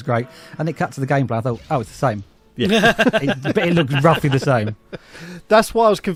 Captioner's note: laughs